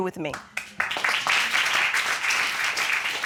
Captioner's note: audience applauding